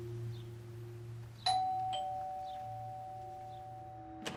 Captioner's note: doorbell rings